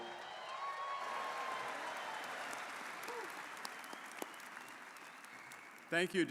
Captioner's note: audience cheering and applauding